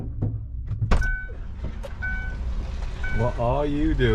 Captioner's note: door clacks; alarm beeping